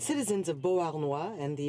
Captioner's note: speaking French